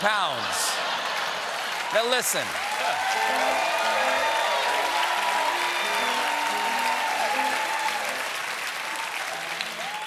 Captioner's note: cheers and applause